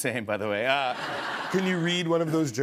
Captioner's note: laughter